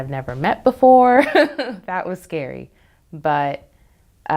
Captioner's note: laughs